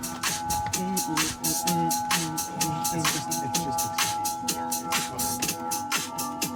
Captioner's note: techno music; humming